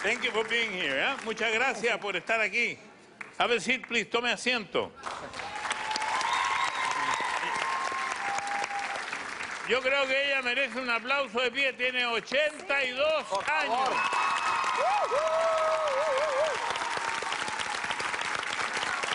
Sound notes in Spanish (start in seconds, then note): 5.0 aplausos; 13.2 aplausos y vitores